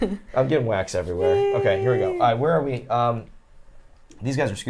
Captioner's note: sighs